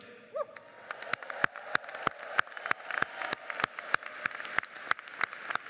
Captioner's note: audience cheers and applauds